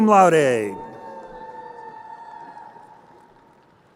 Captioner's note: crowd cheering